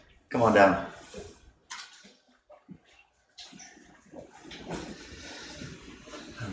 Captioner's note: audience chattering